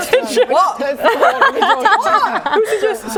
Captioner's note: laughing